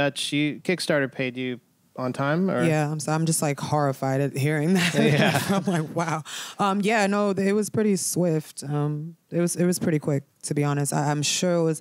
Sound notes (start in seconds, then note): 4.7 laughter